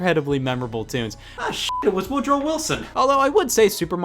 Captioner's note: beep